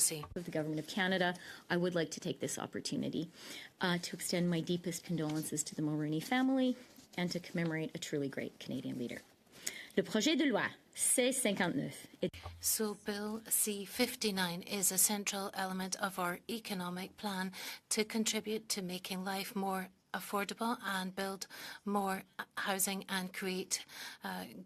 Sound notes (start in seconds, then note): 16.2 speaking French